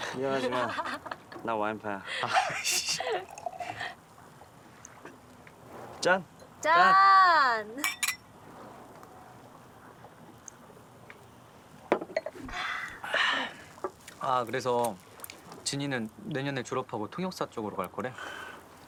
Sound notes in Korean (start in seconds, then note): 2.1 진희와 지석 웃음 소리; 2.3 와인 따르는 소리; 7.8 잔 부딪히는 소리; 11.9 잔 내려놓는 소리